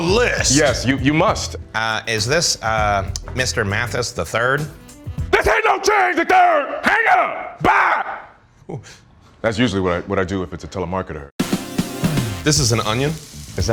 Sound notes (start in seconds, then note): 5.1 shouting